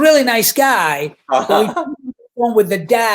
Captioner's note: laughing